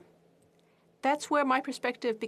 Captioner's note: speaking French